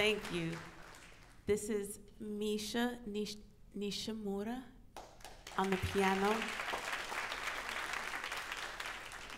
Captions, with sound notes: Thank you, this is Nishi, Nishimura on the piano. (audience applauds)